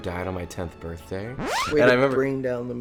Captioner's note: record scratching